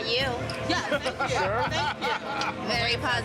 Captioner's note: people laugh